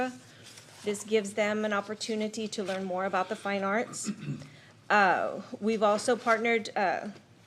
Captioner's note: clears throat